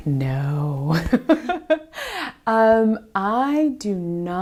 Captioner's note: laughs